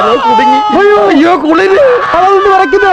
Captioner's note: shiver